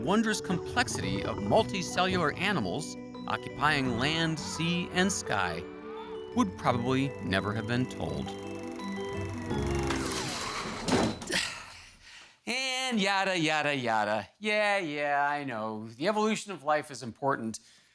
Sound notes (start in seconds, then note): 9.4 film reel clicking, score stops; 10.8 grunts